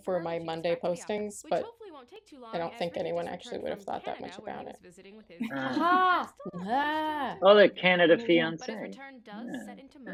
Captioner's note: aha noises